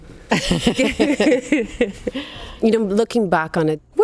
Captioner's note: both laughing